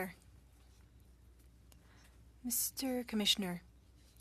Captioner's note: speaking French